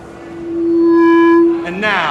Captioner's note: feedback